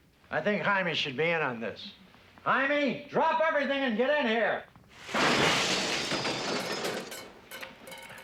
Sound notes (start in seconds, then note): 5.1 clattering